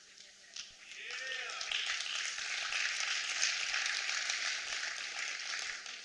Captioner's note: applause